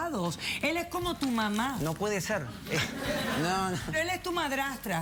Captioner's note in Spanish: risas